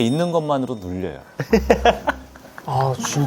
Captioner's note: hahaha